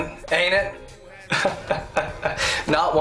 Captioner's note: chuckles